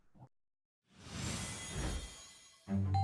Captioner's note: logo whooshes; cheery orchestral music